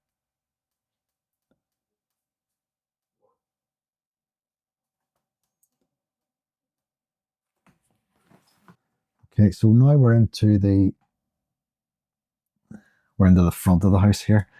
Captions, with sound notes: [silence] Okay, so now we're into the front of the house here,